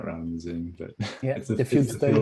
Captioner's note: chuckles